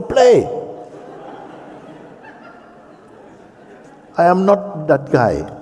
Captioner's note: laughter